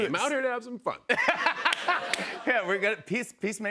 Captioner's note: laughter